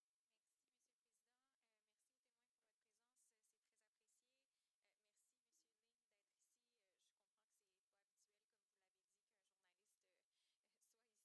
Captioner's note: speaking French